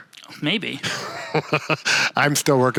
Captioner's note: laughs